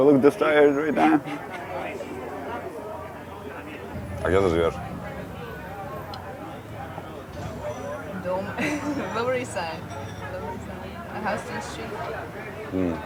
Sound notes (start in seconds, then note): 4.4 Ilya speaking in foreign language; 8.5 laughs